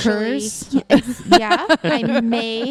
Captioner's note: laugh